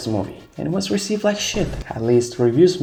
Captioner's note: vine boom LS Mark cameo